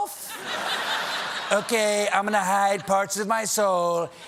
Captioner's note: laughter